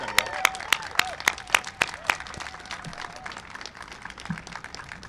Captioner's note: applause and cheering